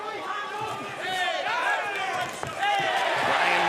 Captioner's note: yelling